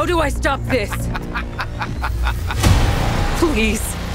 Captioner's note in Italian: risata